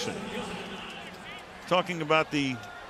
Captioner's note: pa announcement